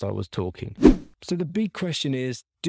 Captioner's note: logo whooshing